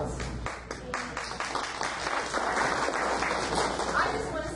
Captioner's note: audience applauds